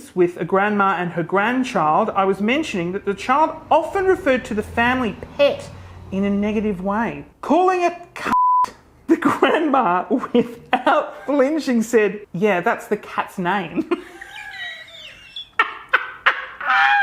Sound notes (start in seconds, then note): 8.3 beep; 13.8 laughs